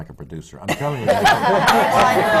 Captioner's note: laughter